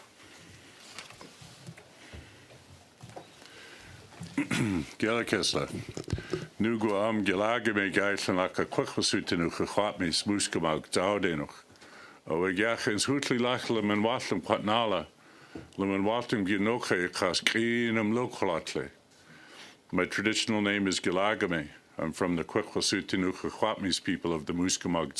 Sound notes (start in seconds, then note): 9.8 speaking another language